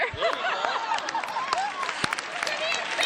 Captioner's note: applause